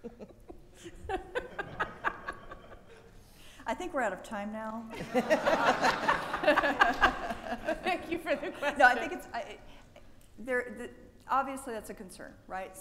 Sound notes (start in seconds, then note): 0.0 women laughing; 4.9 people laughing